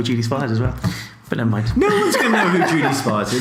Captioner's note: laughs